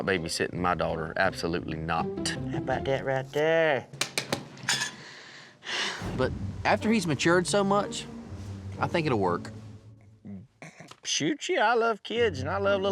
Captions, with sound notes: BOOGER'S NOT BABYSITTING MY DAUGHTER, ABSOLUTELY NOT. HOW ABOUT THAT RIGHT THERE? [TAPS DIAPER] [SIGHS] BUT, AFTER HE'S MATURED SO MUCH I THINK IT'LL WORK. SHOOT YEAH, I LOVE KIDS AND I LOVE LITTLE ANDIE.